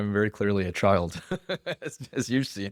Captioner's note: laughs